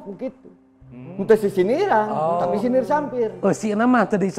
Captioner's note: sarcasm